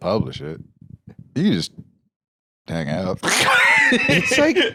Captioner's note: laughs